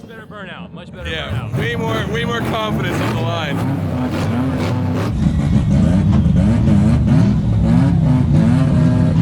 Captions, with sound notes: - Much better burnout. Much better burnout. - Yeah, way more confidence on the line. (engine idling)